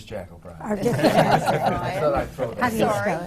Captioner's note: laughter